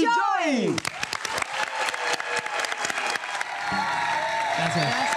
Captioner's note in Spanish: Ovación